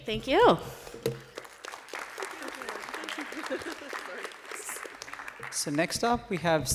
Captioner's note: applause